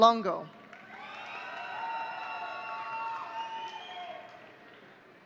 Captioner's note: audience cheering